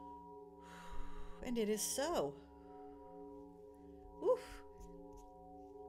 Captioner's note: sigh